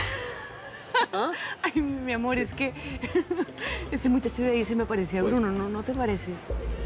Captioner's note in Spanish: Risas